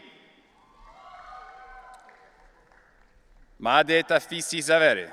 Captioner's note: audience cheering